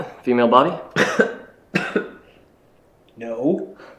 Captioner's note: coughing